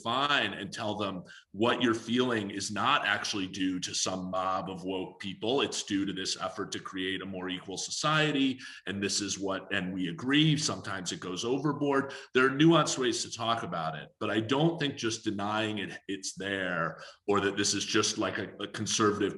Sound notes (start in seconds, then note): none